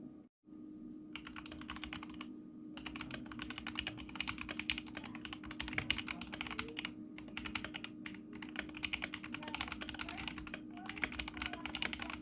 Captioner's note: thin keycap sound test